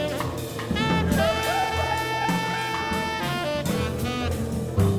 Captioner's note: people laughing